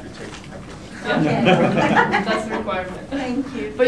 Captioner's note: laughter